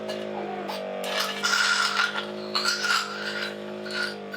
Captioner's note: suctioning